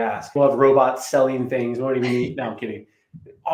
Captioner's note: chuckles